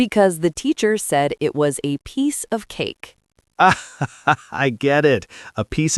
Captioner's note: laughs loudly